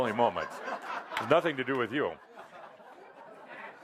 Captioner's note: laughter